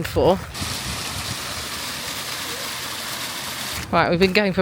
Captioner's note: water splashing